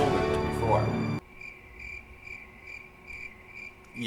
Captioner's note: sound of crickets